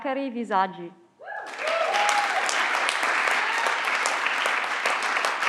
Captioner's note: everyone claps